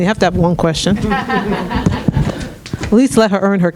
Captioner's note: audience laughing